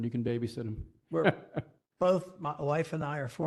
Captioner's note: laugh